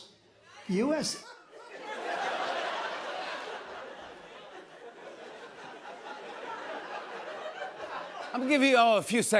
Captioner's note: laughter